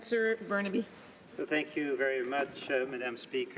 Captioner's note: speaking French